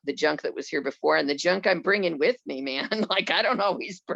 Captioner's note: laughs